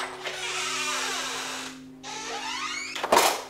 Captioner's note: door creaking